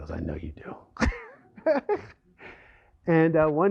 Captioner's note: laughter